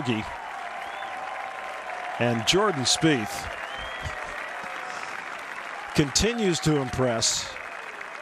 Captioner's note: cheers and applause